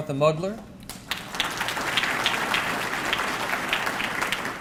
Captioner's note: audience clapping